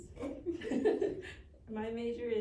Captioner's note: chuckle